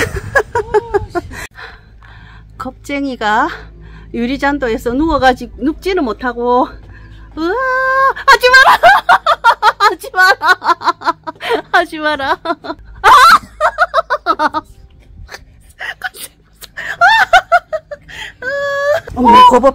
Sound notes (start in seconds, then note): 12.2 laugh